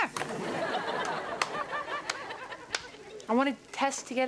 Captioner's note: audience laughs